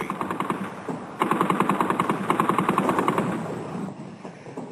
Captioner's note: artillery blasts